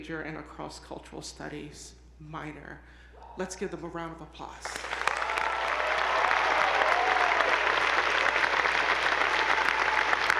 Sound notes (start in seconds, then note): 4.7 attendees applauding; 4.8 audience whooping